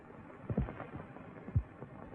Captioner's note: thump